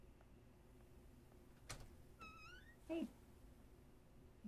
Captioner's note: none